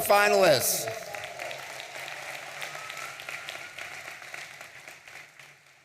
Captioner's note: audience applauding